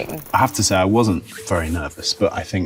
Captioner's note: film reel clicks